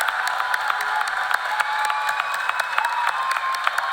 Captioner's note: cheers and applause